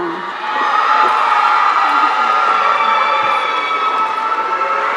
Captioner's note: audience cheering